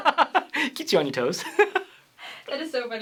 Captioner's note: laughs